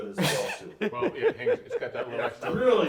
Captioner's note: laughs